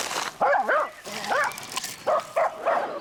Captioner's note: dogs barking